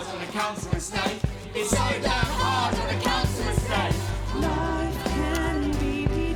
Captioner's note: none